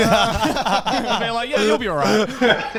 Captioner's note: all laugh